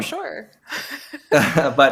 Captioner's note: chuckling